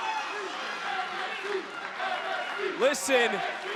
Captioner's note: crowd chants